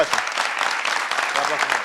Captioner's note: applause